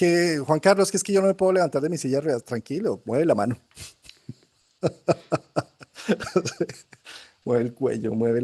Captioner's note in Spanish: risas